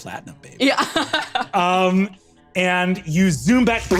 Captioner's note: laughs